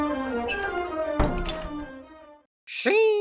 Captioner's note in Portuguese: Rangido de porta abrindo e fechando